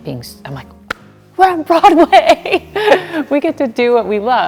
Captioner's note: laughing